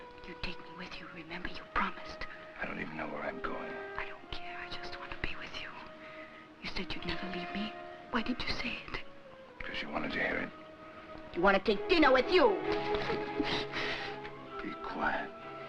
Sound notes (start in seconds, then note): 13.4 Larina exhales